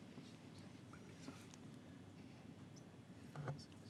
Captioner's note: whispers